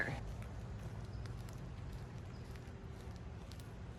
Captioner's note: foot shuffling